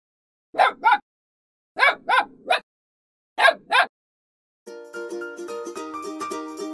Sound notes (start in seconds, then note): 0.5 puppy barking